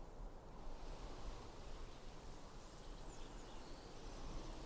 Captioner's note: wind rustling